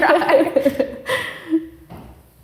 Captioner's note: both laughing